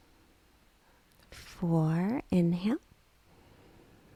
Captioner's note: inhales